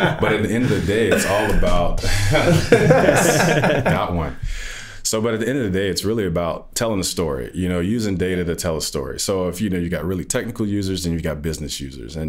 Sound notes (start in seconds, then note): 0.0 all chuckling